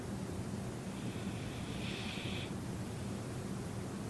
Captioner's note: breathing noisily